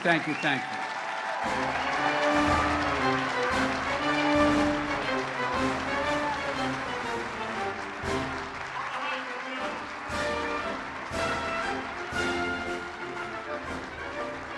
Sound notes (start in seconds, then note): 9.3 applause